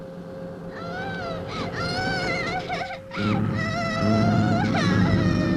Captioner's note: child whimpering